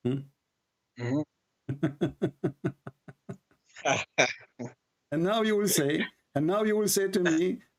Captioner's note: Ketawa